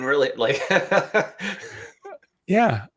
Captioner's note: laughing